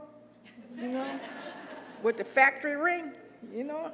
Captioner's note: laugh